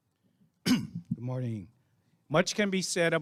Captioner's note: coughing